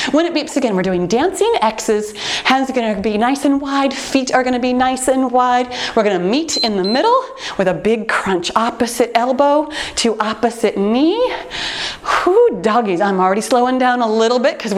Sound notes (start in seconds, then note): 6.5 timer beeps